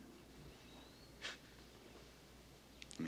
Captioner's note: scoffs